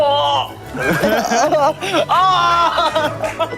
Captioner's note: haha